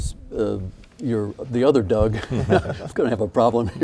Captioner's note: laughing